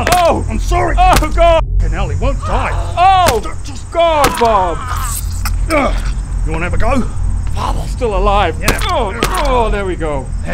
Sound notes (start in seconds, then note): 1.1 stomps; 2.3 demon wails; 3.3 stamps; 4.7 really quite graphic squishing noise